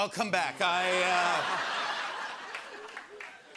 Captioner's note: laughter